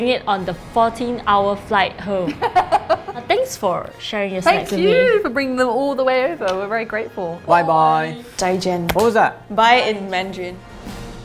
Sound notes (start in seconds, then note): 2.3 laughs; 8.4 speaks Mandarin